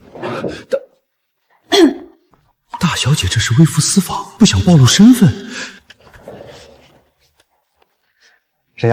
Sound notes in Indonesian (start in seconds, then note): 1.6 Uhuk